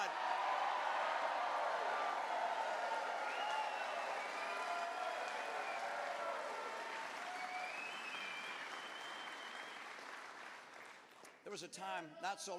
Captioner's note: cheers